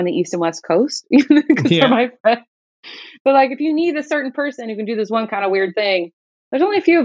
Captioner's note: laughter